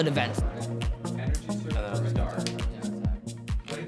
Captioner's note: background chatter